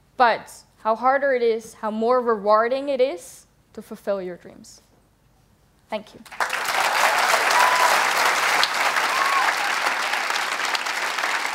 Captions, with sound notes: But the harder it is, the more rewarding it is to fulfill your dreams. Thank you! (Applause)